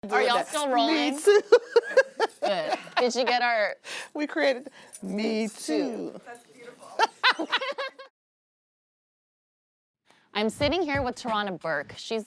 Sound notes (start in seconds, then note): 0.8 laughing